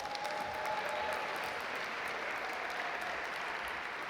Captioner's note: audience applaud